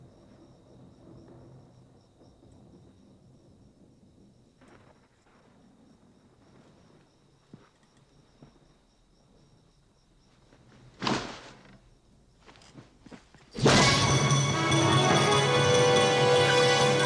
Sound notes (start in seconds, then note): 0.0 thunder; 2.1 thunder